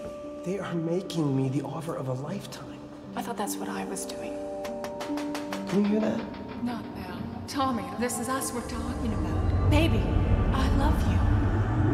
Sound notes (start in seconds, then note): 4.6 tapping